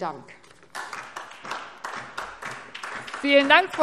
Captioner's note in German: Beifall SPD